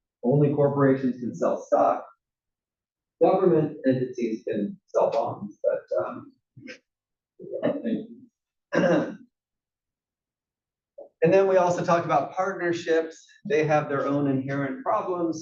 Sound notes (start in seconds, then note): 8.7 cough